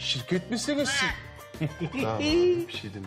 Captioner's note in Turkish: Papağan sesi